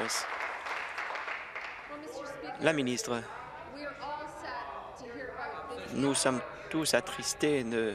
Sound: applause

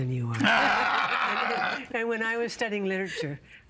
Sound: laughing

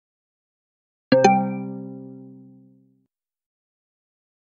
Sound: sound of software interface

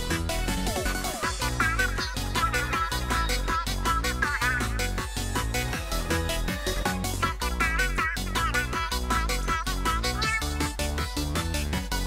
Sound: Happy Callie noises

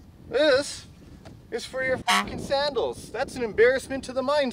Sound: honk

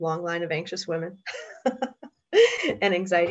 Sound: laughs

